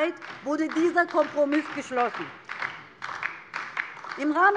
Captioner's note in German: Beifall DIE LINKE